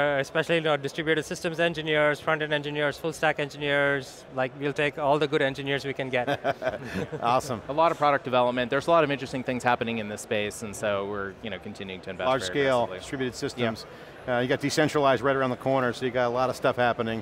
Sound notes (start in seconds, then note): 6.1 chuckles